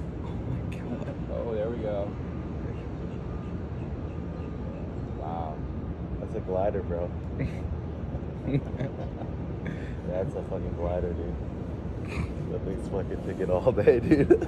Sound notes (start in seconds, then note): 8.2 both laugh